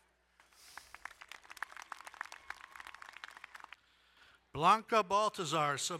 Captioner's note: crowd cheering and applauding